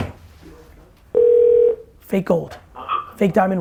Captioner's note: phone rings